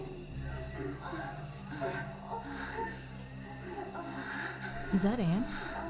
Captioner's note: people moaning